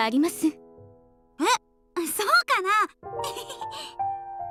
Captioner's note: sheepish laugh